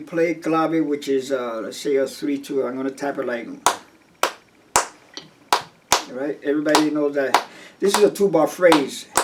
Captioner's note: claps